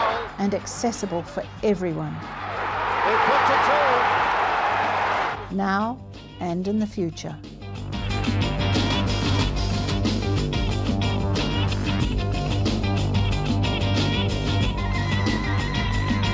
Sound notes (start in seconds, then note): 2.2 wild cheering; 7.5 dynamic music